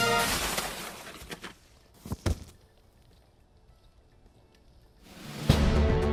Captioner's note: thud; energetic music